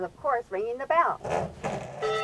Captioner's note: bell gongs